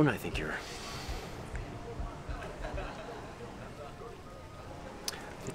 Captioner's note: indistinct chatter